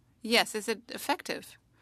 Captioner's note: speaking French